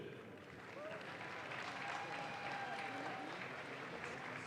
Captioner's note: audience claps